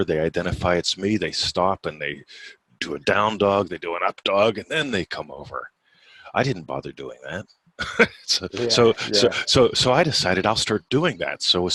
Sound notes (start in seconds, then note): 7.8 laughing